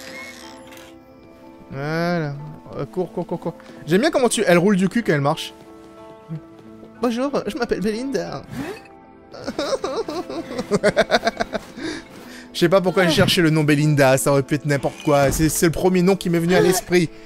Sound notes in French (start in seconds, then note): 7.0 Avec une voix stéréotypée; 9.4 Gloussements